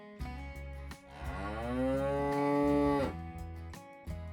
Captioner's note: cow Moo